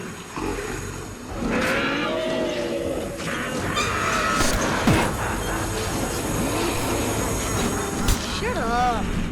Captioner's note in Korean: 공포의 보일러 소리